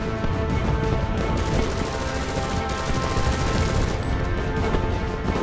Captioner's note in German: Maschinengewehr-Geräusch